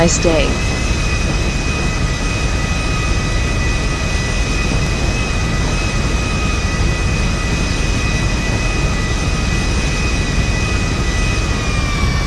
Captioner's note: plane continues taxiing